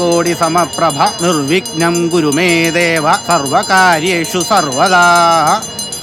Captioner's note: chanting continues; hindu ritual chanting